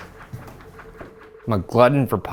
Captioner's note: footsteps descending